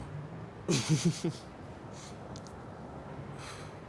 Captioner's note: risas